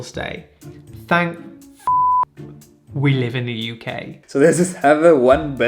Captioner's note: beep